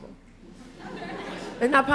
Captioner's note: laughter